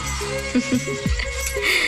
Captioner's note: Laughs